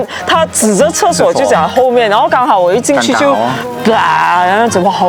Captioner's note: 呕吐